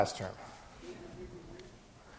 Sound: class laughing

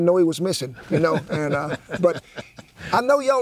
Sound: laughing

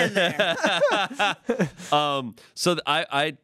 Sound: everyone laughs

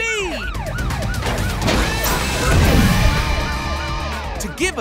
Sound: siren blaring

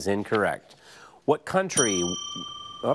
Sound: bell dings

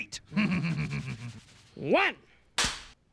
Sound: laughs; cracks pointer

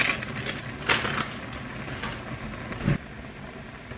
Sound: boiling

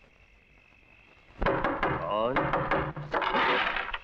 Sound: door knocks

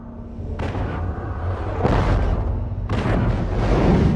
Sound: digitized landslide sounds

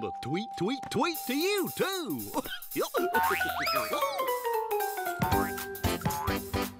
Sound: chuckles

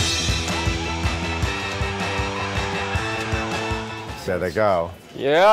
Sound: upbeat rock 'n' roll music; crowd hollering

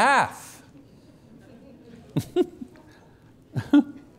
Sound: laughter

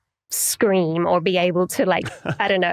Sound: chuckles

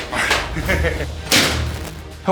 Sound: laughing

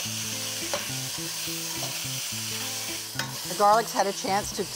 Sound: sizzling

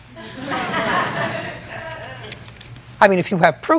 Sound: laughter

